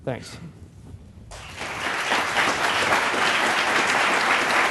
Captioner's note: applause